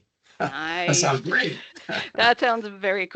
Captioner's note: laughing